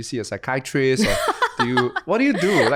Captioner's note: laughs